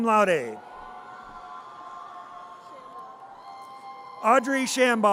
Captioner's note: audience cheers